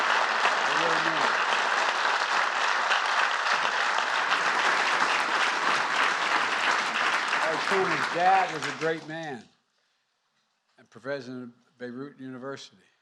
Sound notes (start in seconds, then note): 0.0 applause